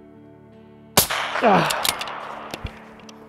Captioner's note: old man noise